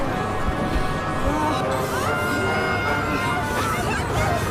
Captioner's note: screams